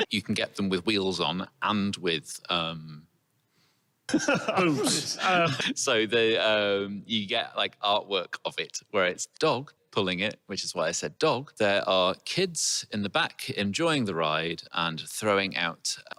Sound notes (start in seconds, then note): 4.1 laughs